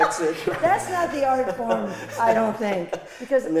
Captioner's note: laughs